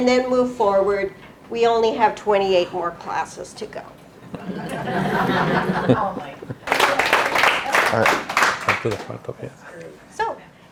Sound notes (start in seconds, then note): 4.2 laughing; 6.6 clapping